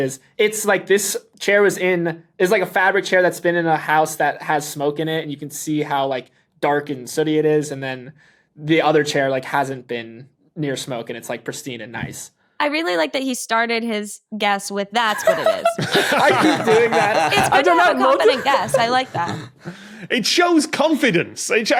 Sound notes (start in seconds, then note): 15.0 laugh; 15.0 giggles loudly